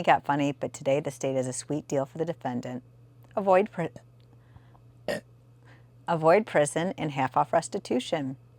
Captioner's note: burp